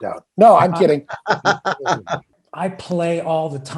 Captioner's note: laughing